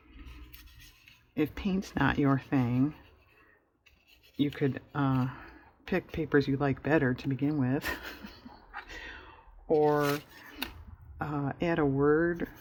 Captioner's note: laughs